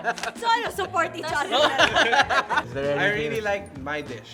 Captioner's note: laughs